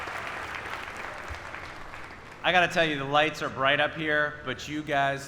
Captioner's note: applause